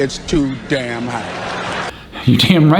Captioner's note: audience laughs